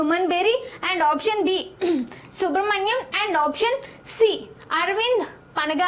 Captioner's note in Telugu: గొంతు సవరించుకోవడం